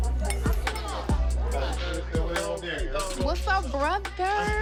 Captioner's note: chatter